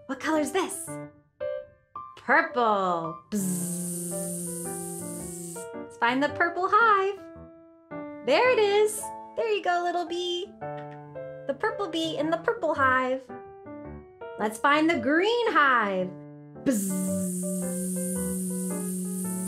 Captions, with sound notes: What color is this? Purple. (buzzes) Find the purple hive. There it is. There you go, little bee. The purple bee in the purple hive. Let's find the green hive. (buzzes)